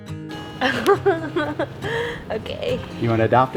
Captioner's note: laughs